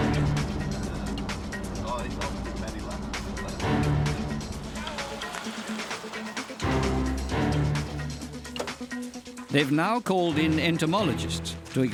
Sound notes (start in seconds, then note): 5.0 man shouts